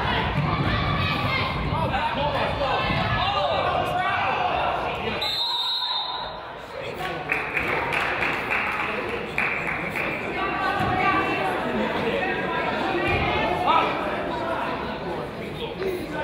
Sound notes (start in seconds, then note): 3.9 crowd yells; 5.2 whistle blows; 6.9 crowd applauds